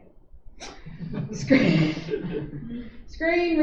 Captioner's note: laughter